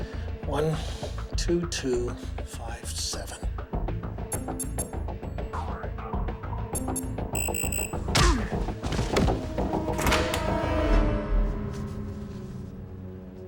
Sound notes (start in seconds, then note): 7.0 machine trills